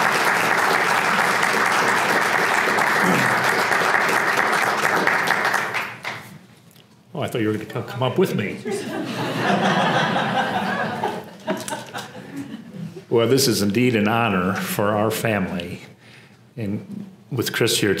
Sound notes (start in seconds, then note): 0.0 applause; 8.7 laugh